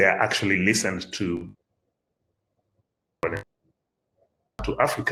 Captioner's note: audio drops